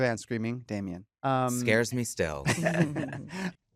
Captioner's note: laughter